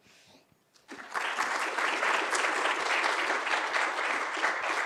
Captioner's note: audience applauding